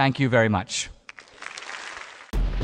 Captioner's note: audience applause